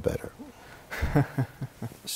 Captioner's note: laughter